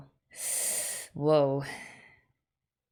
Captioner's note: hissed intake of breath